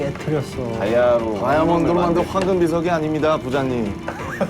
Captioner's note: rumbling